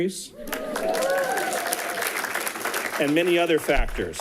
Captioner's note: people cheering and clapping